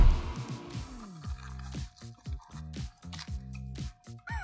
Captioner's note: crunching